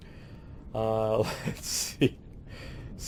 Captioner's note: laughing